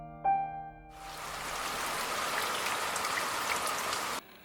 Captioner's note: rain pattering